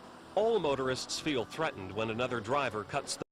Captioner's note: voiceover